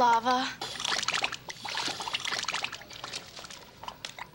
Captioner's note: lava bubbling